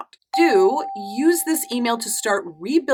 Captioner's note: affirmative dinging